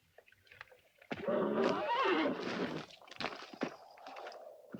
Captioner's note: horse neighs